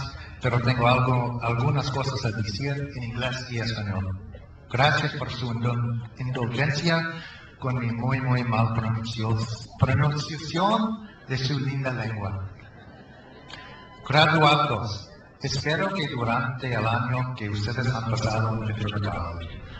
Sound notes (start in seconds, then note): 12.8 crowd laughs; 14.2 speaks in foreign language